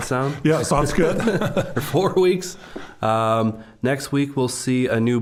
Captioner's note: both laughing